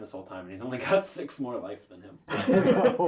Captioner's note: all laugh